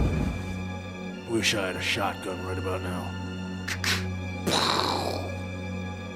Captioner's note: mimics shotgun cocking and shooting